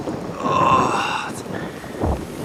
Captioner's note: groaning